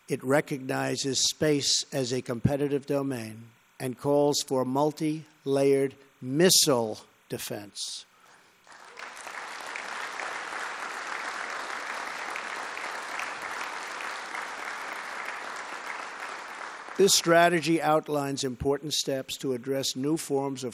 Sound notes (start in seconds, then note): 8.6 applause